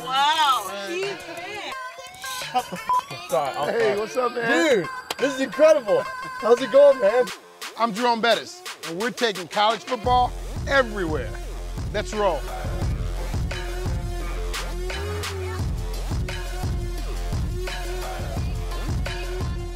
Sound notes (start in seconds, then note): 2.8 beep; 13.1 hip-hop style music